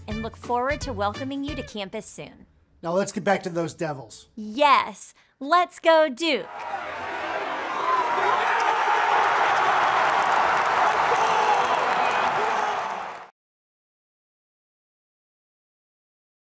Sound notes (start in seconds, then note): 6.4 crowd cheering; 6.4 crowd applauding